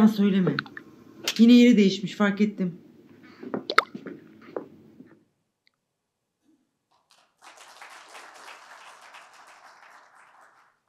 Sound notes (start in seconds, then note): 6.9 applause